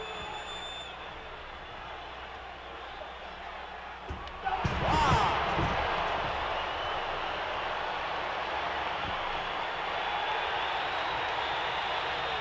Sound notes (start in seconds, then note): 6.0 audience cheering